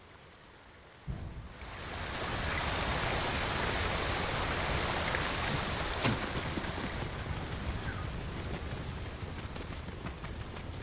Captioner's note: thunder rumbling